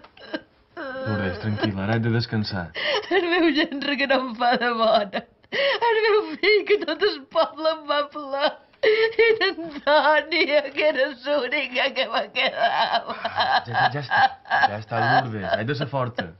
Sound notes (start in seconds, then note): 0.7 still cries; 12.6 cries